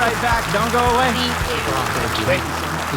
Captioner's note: audience applauding; gentle music